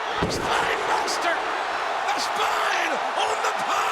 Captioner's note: crowd cheering